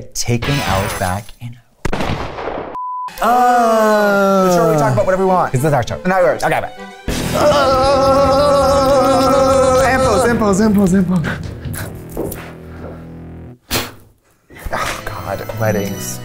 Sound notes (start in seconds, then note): 2.8 buzzer